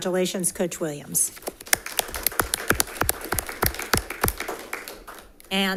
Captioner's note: audience applauding